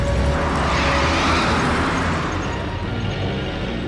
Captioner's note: tires screeching; tense music continues